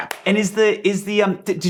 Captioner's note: hands clap